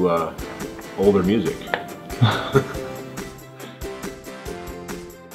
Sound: laughs

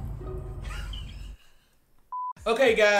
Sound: chuckles; electronic beep

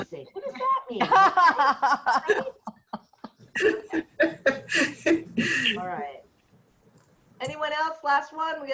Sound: laughter

